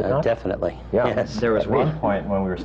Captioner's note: laughs